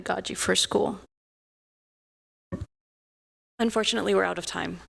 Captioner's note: audio out